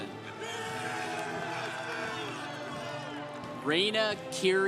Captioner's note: congregation applauding